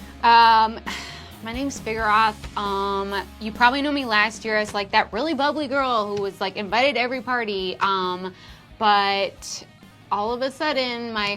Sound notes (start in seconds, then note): none